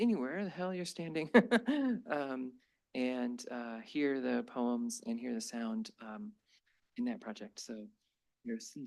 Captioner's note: laughs